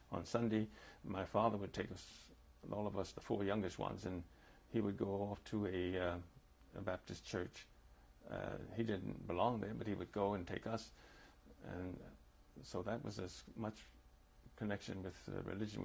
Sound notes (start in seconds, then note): none